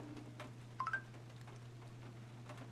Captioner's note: Snapchat Notification